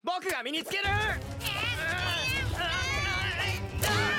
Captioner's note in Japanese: 奪い合う声